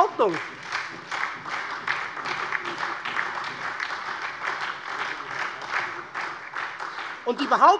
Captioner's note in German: Beifall